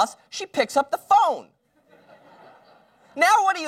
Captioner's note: laugher